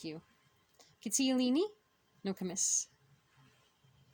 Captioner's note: speaking Abenaki